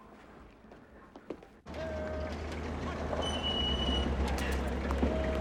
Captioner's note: officer Shouting Commands